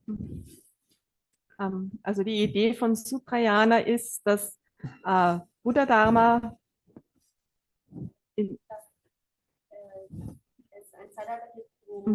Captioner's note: German live translation